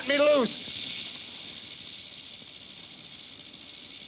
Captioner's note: snake rattles